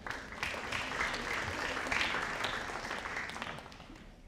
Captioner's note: audience applauding